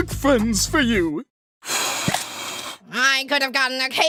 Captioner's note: blowing sounds